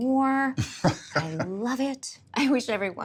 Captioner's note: chuckling